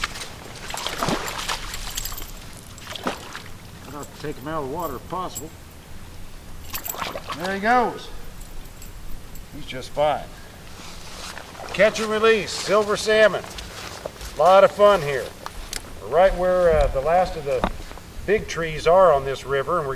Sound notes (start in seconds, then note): 2.0 splash